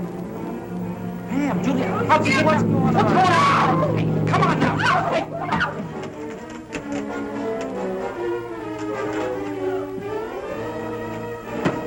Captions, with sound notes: - Pam, Julia! - Oh Skip! - How'd you get here, what's going on? - What's going on? (screaming) Come on now, hey!